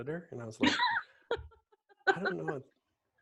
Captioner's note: laughs loudly